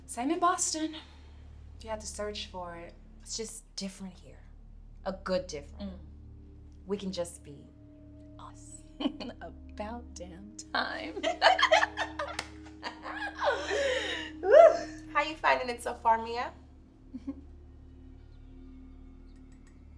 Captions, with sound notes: - Same in Boston. You had to search for it. - It's just different here, a good different. We can just be us. - About damn time. (Ayanna and Nia laughing) - How are you finding it so far, Mia?